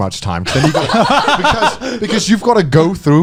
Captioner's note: laughing